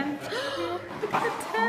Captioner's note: gasp